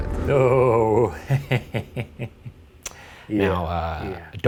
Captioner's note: laughs